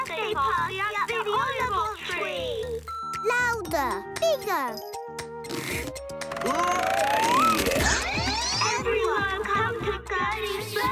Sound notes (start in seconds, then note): 5.9 grunts; 7.5 recorded Voice